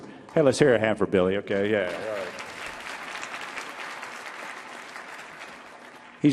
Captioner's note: audience applauding